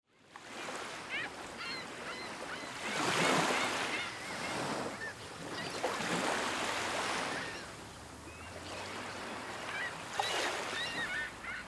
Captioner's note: gentle waves on the beach and seagulls mew